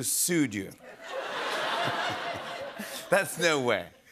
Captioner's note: laughter